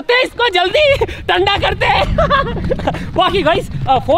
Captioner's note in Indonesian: Tertawa